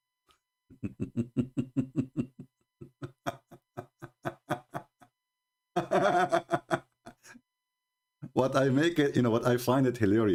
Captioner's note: Ketawa